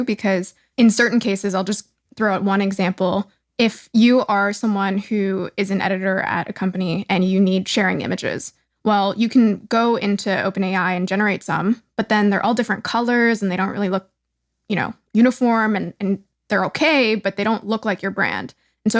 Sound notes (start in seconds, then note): none